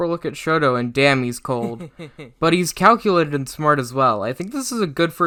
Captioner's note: heh heh heh